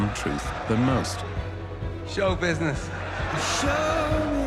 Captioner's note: audience laughing